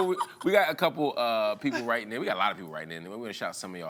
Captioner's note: laughs